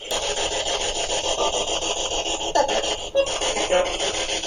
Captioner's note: ghostly voices